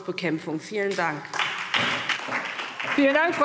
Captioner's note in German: Beifall SPD und vereinzelt DIE LINKE